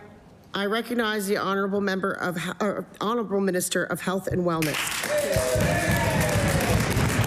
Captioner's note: some Applause